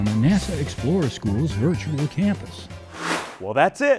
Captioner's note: sound Effects